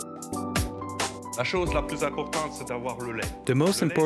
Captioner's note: speaks french